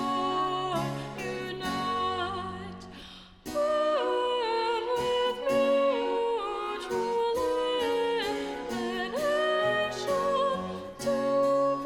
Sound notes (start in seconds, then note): none